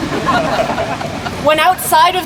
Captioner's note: laughter